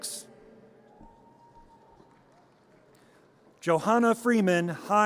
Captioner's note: audience cheers